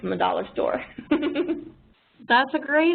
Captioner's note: laughs